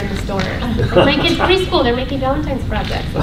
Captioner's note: laughter